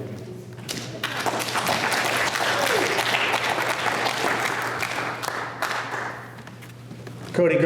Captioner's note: applause